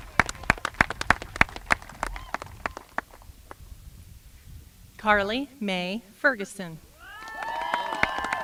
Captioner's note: applause